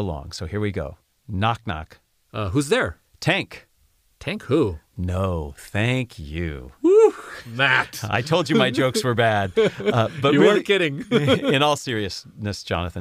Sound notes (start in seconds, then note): 9.6 laugh